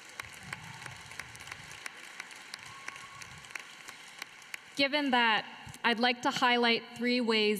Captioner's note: applause